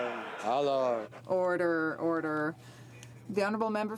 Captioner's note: some Applause